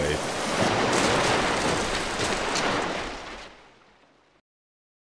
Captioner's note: historically accurate wave crashes into the boat